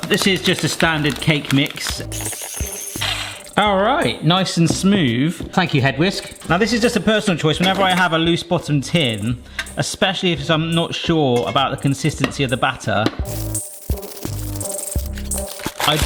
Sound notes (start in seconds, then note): 2.3 whisk whirring; 13.2 rhythmic music